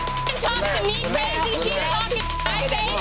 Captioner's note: beeping